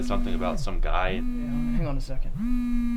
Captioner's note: cellphone buzzing